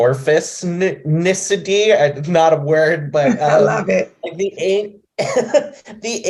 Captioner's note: laughs